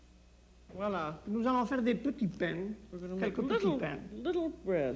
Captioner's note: speaks French